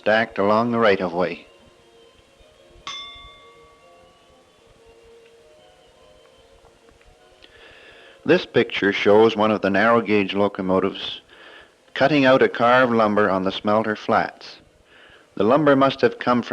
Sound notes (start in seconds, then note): 2.8 bell sound